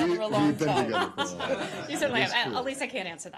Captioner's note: laughter